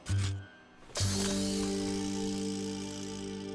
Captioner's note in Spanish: crujido de bolsas de basura